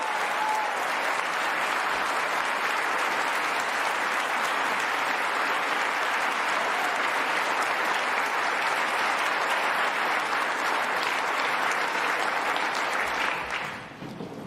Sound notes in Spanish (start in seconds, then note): 2.5 aplausos